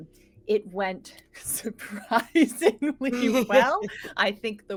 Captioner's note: laughing